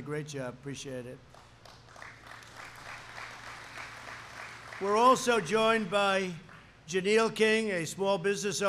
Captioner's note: applause